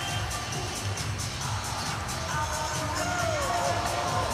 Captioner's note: horn